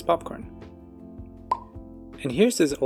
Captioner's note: pop